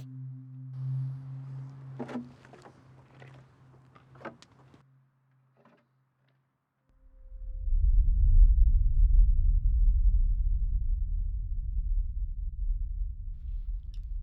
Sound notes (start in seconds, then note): 0.8 fuel container drags